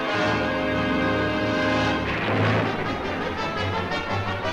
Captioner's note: thunderclaps Continue